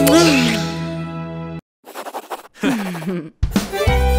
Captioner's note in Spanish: Risas; Música alegre